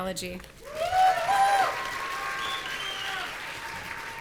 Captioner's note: audience cheering